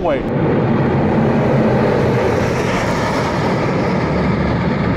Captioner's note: plane engine roaring